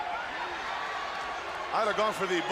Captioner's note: crowd chatter